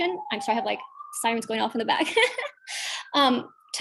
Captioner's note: laughs